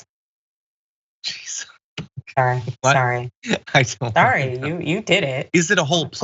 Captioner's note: laugh